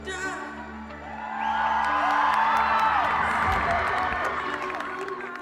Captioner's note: cheers